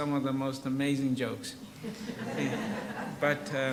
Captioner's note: audience laughs